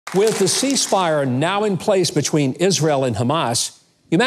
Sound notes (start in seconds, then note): 0.0 audience clapping